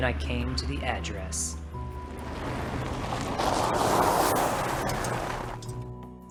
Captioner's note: sound of a car pulling up in gravel